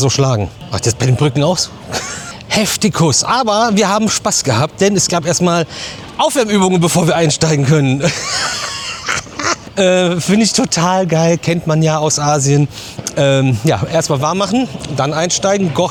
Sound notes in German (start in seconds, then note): 8.0 gelächter